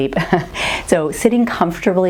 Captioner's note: laughs